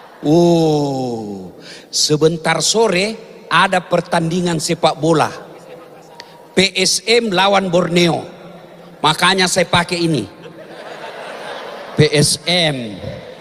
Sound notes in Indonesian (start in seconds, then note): 11.1 tertawa